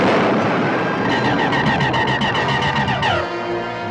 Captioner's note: car crash rumbling; zapping